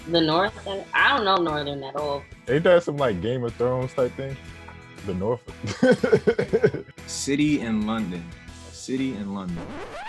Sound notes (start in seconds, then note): 5.6 laughing; 9.5 record scratch